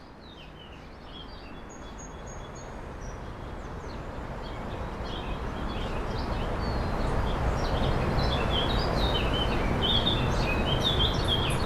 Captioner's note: birds tweeting